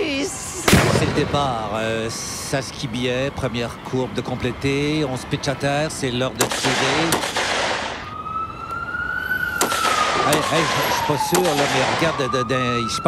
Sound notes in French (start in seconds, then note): 0.6 coup de feu; 6.4 coups de feu; 7.4 sirène d'ambulance; 11.2 coups de feu